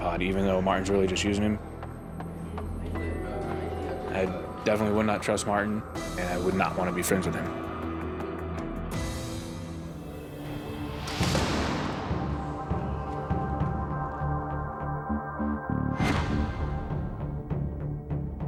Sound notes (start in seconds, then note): 2.4 ominous music; 10.4 cell door closes